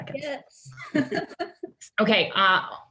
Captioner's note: laughs